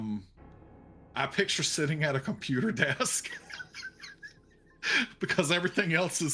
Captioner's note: chuckles